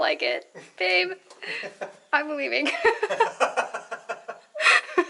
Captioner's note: laughter; laughter